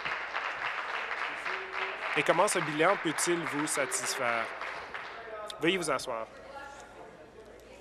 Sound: applause

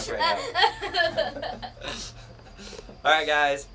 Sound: laughs

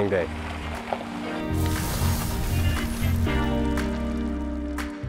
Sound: sparking noise; funky pop music

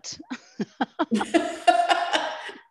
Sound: laughs

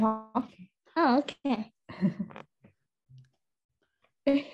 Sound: laughter

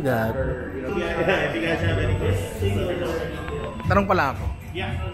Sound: indistinct chatter

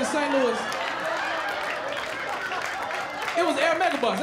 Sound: laughter

